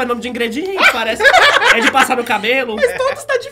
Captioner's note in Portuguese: risos